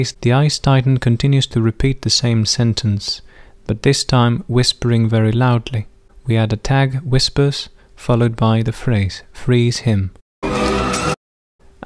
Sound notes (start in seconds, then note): 7.0 whispers; 10.4 intriguing music